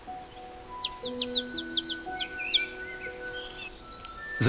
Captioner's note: chirping